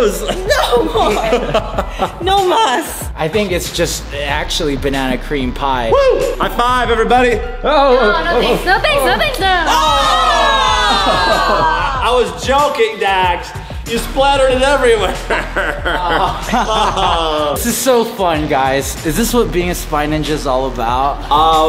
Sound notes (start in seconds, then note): 9.8 screams; 14.9 laughing